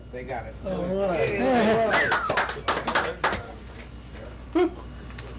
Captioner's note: cheers and applause